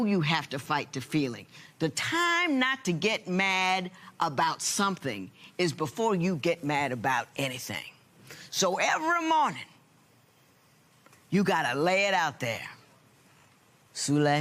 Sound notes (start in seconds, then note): none